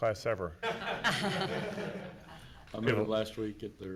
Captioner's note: everyone laughs